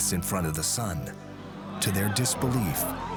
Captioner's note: indistinct chatter